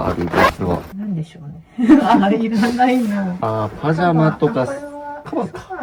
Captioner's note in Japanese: 笑い